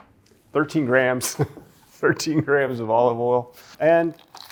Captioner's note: chuckles